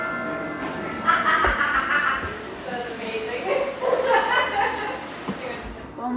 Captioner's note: ring tone music; laughing